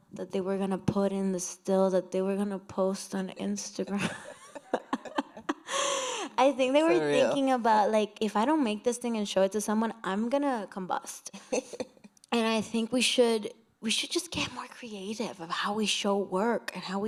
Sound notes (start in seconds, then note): 3.9 laughter